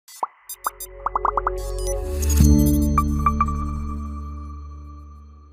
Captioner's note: graphics popping; bright music